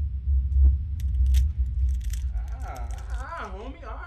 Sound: bones cracking

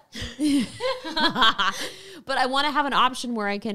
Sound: laughing gently

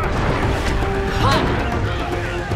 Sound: grunting

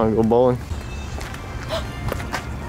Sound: game chimes

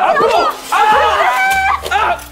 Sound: screams

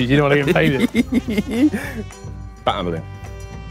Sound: chuckling

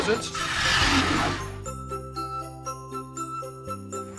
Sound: roaring

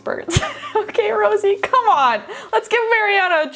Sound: laughs

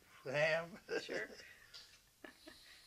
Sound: laughs

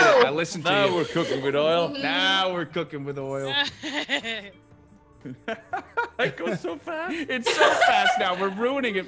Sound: laugh

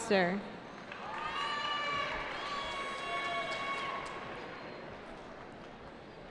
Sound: cheering

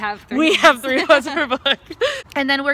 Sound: laughs

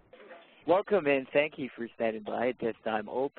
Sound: voiceover

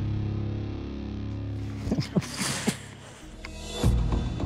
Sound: chuckles

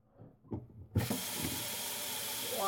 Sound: water running

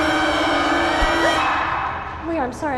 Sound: gasps

